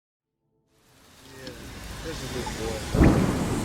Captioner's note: thunderstorm